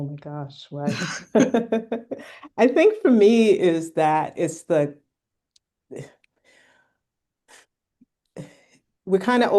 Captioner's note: laughter